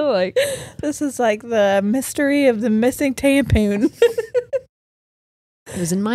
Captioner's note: laughs